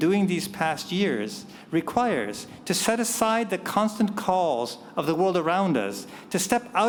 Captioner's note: none